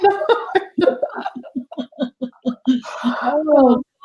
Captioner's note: laughing